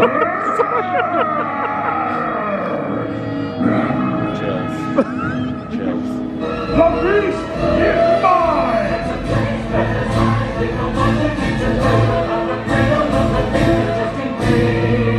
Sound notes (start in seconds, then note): 0.0 beast continues roaring; 0.0 laughing; 0.0 chuckles; 4.8 laughing; 9.4 intense music